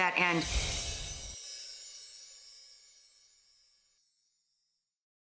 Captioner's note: fairy dust sparkles